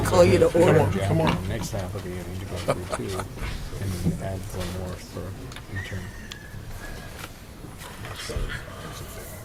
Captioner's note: background chatter